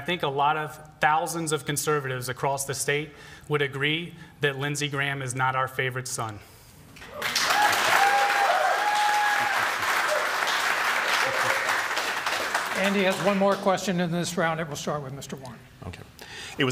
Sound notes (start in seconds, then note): 7.1 applause; 7.2 cheering